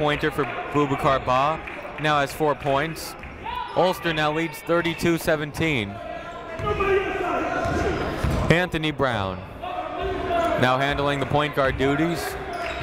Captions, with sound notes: It's a two-pointer for Boubicar Bah, now has four points. Ulster now leads 32-17. (shouting) Anthony Brown now handling the point guard duties.